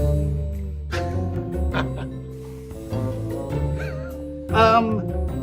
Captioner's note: laughing